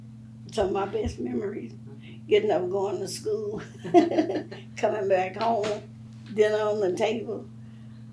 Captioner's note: laughs